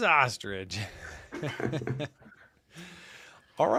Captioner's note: laughter